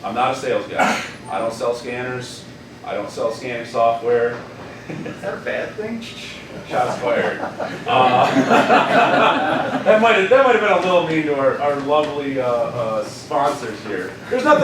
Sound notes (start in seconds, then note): 8.5 laughing